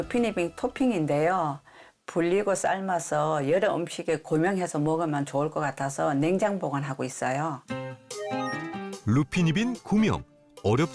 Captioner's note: voiceover